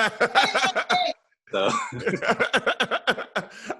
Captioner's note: laughing